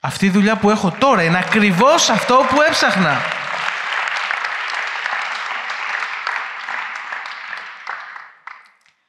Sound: applause

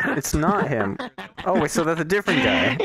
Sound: maniacle laugh

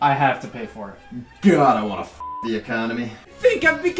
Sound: beep

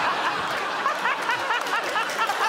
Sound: laughter

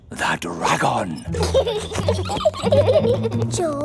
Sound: both giggling

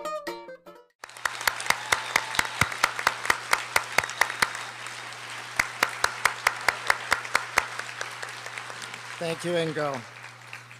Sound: applause

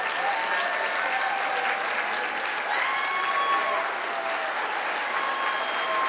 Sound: audience cheering and applauding

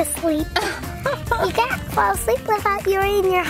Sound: mom laughing

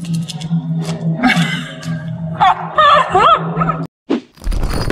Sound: laughing

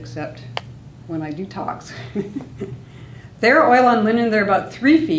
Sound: laughs

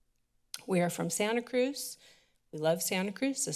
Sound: clicks tongue

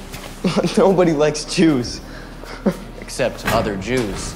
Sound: laughs

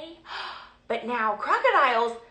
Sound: gasping

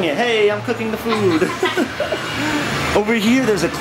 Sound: laughter

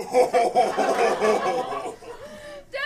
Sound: Goyle laughs

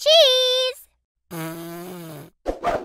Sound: blows raspberry

